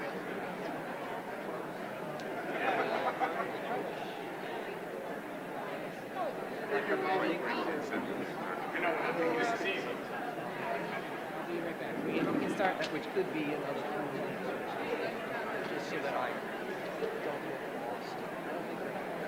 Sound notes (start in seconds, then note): 12.5 indistinguishable chatter